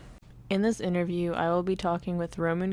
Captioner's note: voice-over